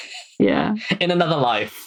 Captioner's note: laughs